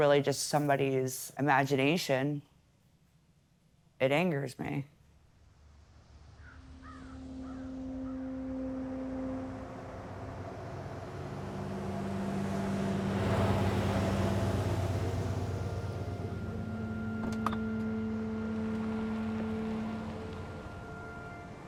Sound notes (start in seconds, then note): 7.2 soft thoughtful music; 7.2 traffic whooshing